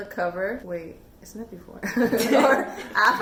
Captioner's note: laughs